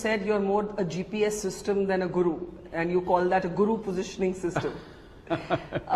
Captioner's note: laugh